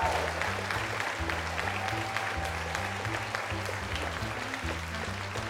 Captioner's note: audience applauding, cheering